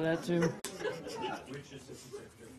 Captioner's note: laughter